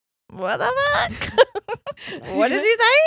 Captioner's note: giggles loudly